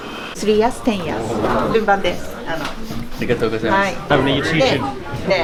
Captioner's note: speaking Japanese